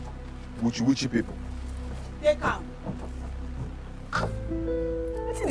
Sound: foreign language

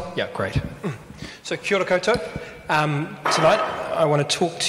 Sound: speaks in foreign language

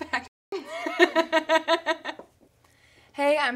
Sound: laughing

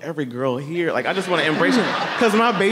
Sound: everyone laughing

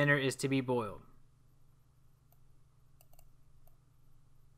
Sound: long pause

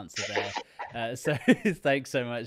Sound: laughs

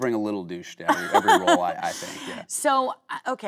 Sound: Kate laughing

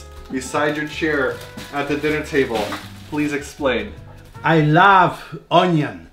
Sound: none

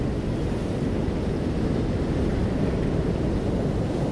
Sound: wind

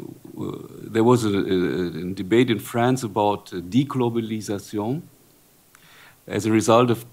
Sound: speaking french

